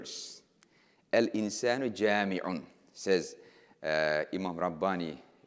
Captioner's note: speaking in foreign language